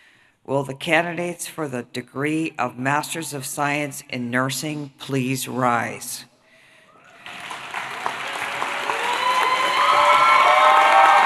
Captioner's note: applause; cheering